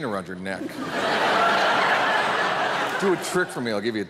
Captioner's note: audience laughing